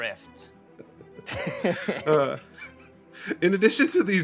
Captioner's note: laughing